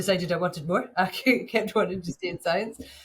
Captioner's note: chuckles